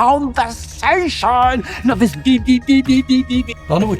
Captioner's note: silly beep noises